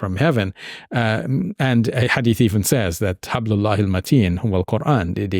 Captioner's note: speaking Arabic